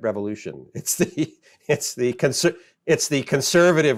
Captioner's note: softly chuckling